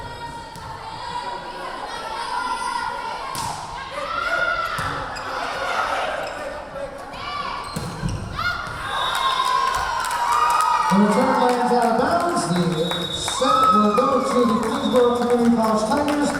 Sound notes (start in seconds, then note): 0.2 yelling; 8.4 cheering; 9.7 whistle blowing